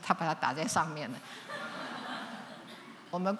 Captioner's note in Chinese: 笑聲